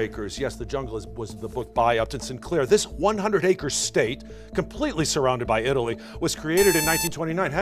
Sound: buzzer

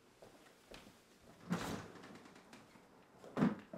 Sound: door opens and closes

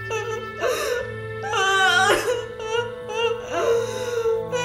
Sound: cries in shock

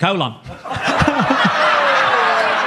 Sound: Gary chuckling; audience laughing

